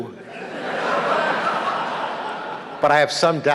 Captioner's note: audience laughing